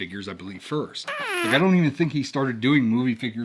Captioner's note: whoopie cushion sound effect